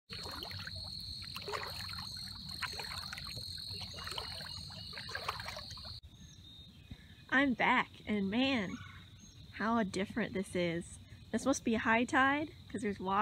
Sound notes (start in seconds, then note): 0.0 crickets and water sloshing with footsteps; 6.4 crickets